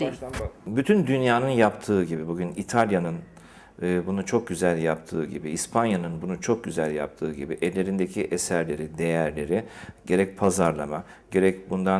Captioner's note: speaking in Turkish